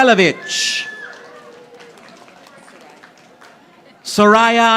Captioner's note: audience applauding